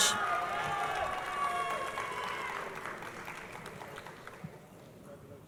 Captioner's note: crowd applauding